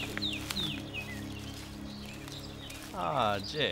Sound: birds chirp

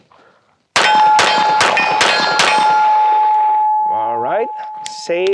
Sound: five successive gunshots

